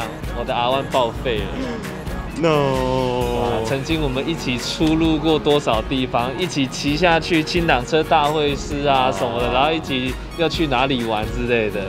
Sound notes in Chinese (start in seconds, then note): 1.5 倒吸氣